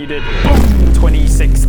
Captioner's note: boom!